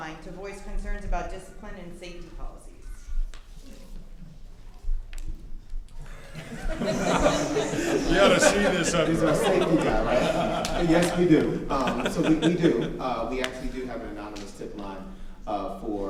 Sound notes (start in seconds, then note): 5.2 chattering faintly; 6.0 chattering; 6.1 audience laughing